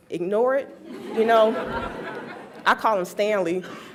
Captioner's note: laughs